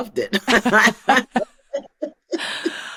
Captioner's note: laughter